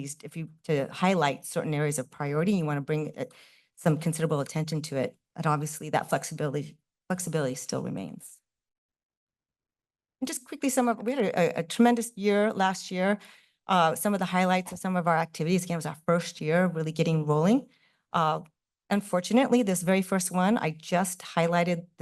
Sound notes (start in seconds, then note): 8.4 pause